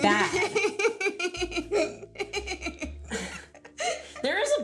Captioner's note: laughing